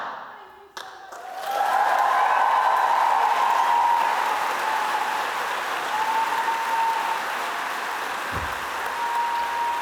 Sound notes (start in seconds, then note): 0.0 audience applauding; 5.5 audience cheering